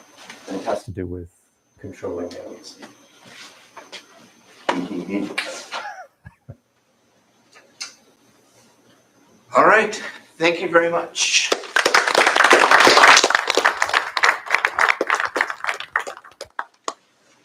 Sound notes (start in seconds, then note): 5.6 chuckling; 11.4 applause